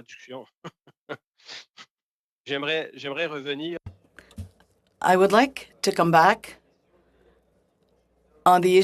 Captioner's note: speaking French